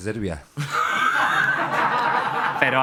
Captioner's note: laughter